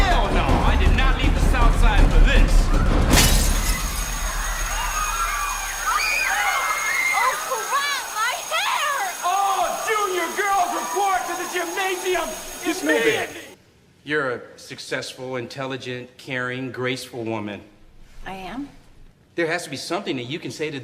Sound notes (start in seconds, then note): 3.1 glass shatters; 3.5 alarm rings; 5.3 people scream